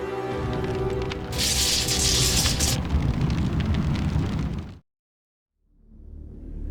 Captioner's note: flames whooshing; electricity crackles; tense ambient music